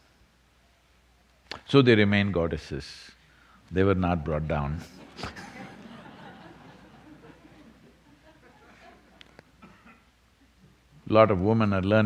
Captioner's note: laughter